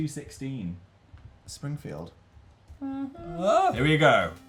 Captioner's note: hums "The Simpsons" theme